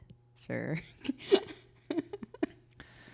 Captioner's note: laughs